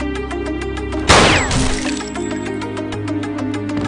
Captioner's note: gun firing